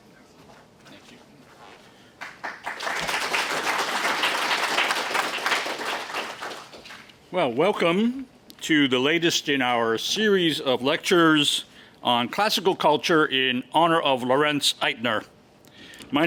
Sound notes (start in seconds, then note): 2.1 applause